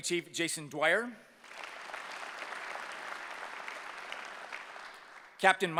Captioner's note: applause